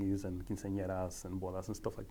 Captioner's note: speaking foreign language